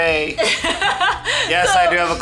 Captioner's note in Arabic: تضحك